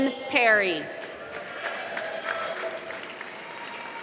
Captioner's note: applause